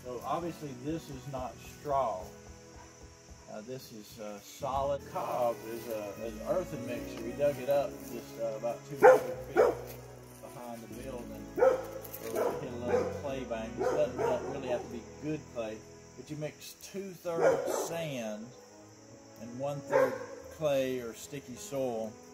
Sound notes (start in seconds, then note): 13.7 lots of annoying barking